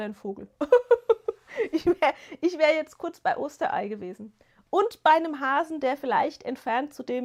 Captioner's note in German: gelächter